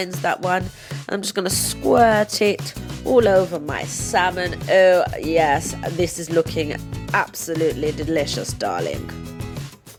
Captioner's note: posh English Accent